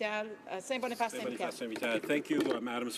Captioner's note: speaking french